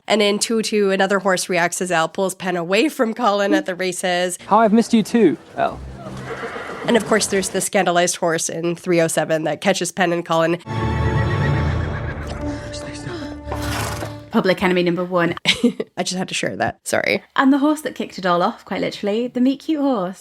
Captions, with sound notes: And in 202, another horse reacts as El pulls Pen away from Colin at the races. - "How I've missed you too, El." (horse neighing) And of course there's the scandalized horse in 307 that catches Pen and Colin (horse neighing) - "Stay still." (horse blowing) - Public enemy number one. - I just had to share that, sorry. - And the horse that kicked it all off, quite literally, the meet cute horse.